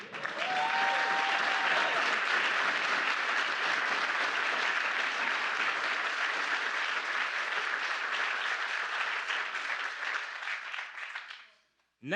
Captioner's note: applause